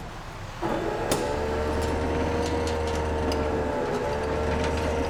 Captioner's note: jaws of life whirring